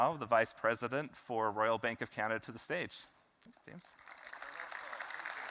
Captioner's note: applause